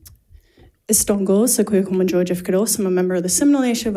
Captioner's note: speaks in foreign language